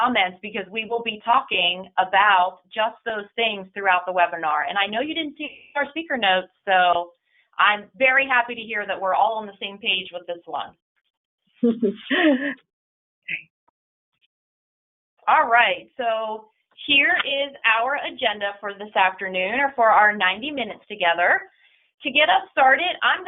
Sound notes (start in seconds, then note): 11.6 laughter